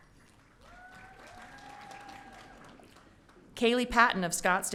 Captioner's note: audience cheering